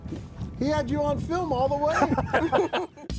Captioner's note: all laughing